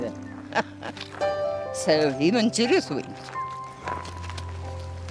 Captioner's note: laughs